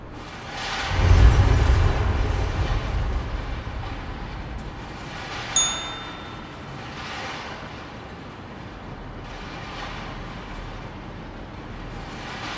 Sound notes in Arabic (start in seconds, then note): 0.6 أصوات سقوط الحطام والانهيار; 5.5 نغمة الجرس الصحيحة